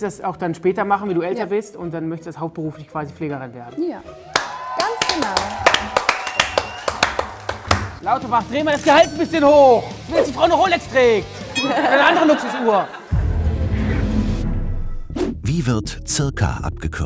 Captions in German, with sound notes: Du möchtest das auch später machen und hauptberuflich Pflegerin werden? Ja, ganz genau. (Jubel, Applaus) Lauterbach, dreh mal das Gehalt 'n bisschen hoch! Damit die Frau 'ne Rolex kriegt oder 'ne andere Luxusuhr! (Spannungsvolle Musik)